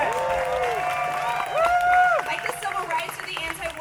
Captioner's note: audience cheering